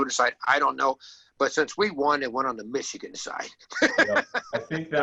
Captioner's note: laughs